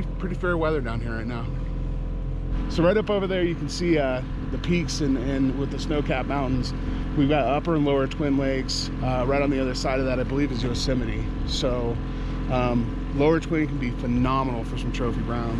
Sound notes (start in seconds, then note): 2.9 boat engine idling